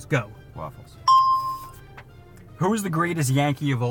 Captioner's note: bell rings